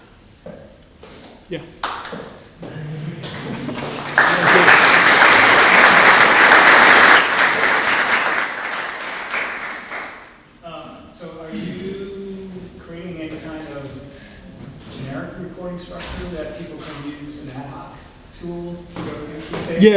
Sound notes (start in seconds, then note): 2.6 laugh; 3.2 applause